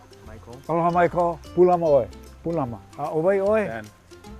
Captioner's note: speaking Hawaiian; speaking Hawaiian